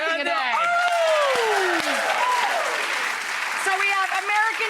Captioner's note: audience cheering and applauding